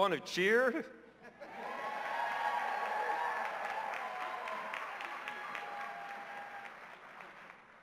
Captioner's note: cheers and applause